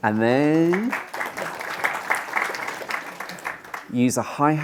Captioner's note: clapping